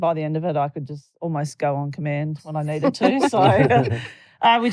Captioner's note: laughter